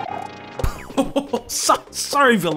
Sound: laughs

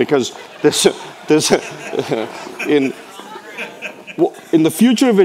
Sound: people laughing

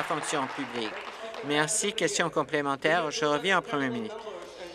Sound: applause

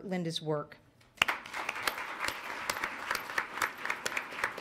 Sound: applause

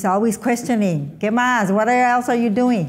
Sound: speaking in foreign language

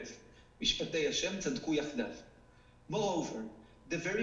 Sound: speaking foreign language

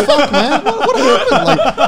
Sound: laugh

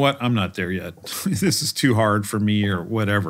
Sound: laugh

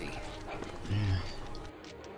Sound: grunts in agreement

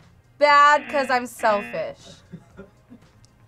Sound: buzzer rings; React laughs

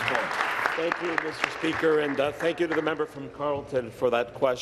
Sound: applause

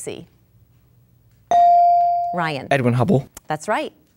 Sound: dinging

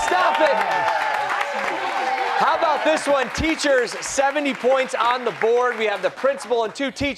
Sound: applause

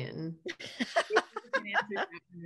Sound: laughs

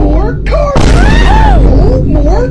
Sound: boom

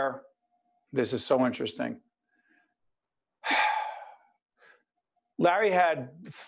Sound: sigh

